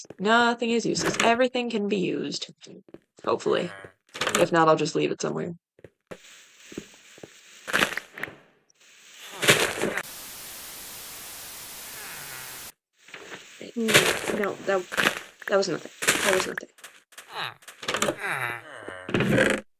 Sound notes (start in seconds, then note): 10.4 static